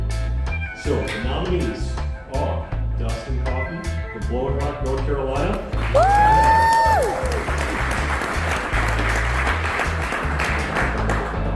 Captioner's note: applause